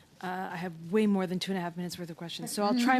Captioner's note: speaking French